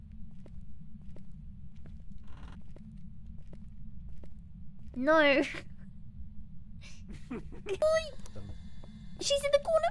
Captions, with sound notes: No *both laughing* She's in the corner!